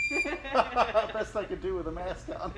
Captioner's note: both laughing